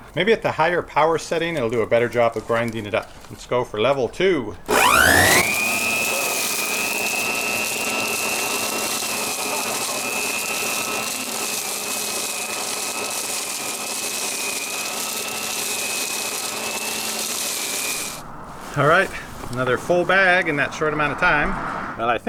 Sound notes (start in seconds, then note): 4.8 motor whining; 7.4 leaves crunching; 7.4 vacuum whining